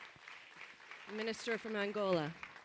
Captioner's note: applause